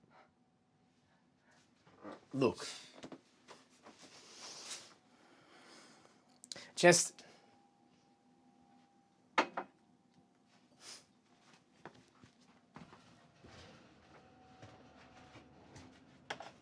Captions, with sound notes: - Look, (exhales deeply) just...